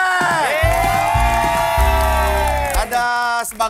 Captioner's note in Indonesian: applause